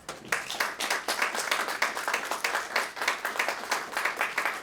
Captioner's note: audience clapping